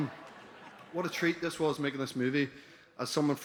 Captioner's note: laughter